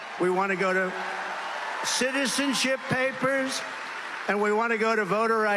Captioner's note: cheers and Applause